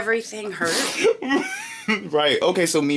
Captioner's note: laughing